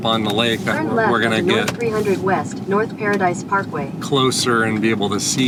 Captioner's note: Google Maps audio directions